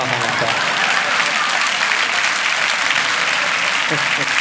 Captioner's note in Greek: χειροκρότημα